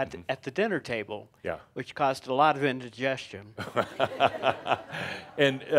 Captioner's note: laughter